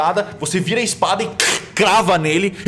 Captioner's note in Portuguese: Crack